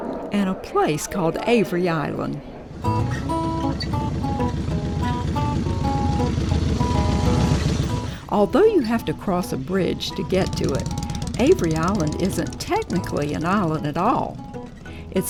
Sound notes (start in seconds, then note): 2.7 engine roaring; 2.7 upbeat music